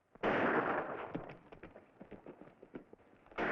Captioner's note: gunshots bang